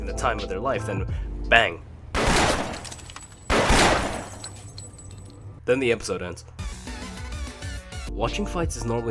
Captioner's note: bang